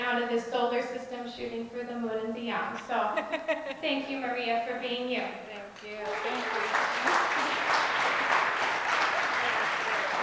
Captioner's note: more applause